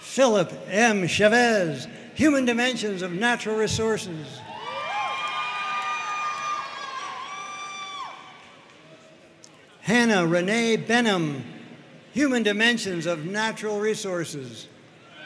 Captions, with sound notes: Philip M. Chavez, Human Dimensions of Natural Resources. (audience cheering and applauding) Hannah Renee Benham, Human Dimensions of Natural Resources.